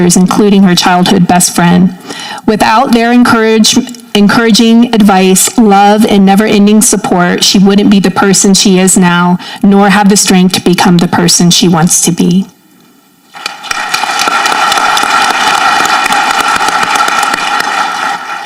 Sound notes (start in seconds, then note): 13.3 audience clapping